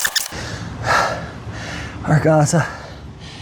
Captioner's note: breathing heavily